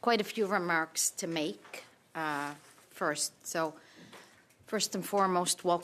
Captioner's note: speaking French